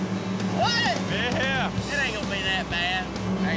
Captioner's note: laughing